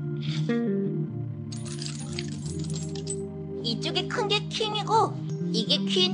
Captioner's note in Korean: none